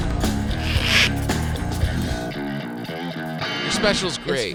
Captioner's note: heavy rhythmic music; tape screeching